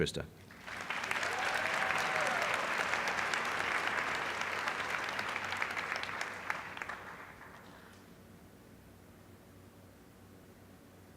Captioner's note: applause